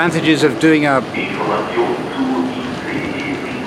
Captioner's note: station announcement in German